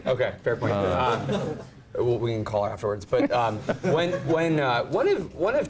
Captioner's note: laugh